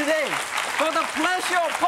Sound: audience applause

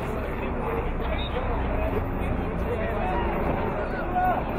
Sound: whistle blowing

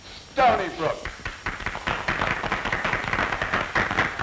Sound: applause

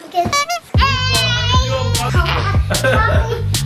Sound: fast, upbeat music; yelling

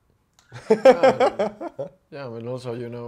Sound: host laughing

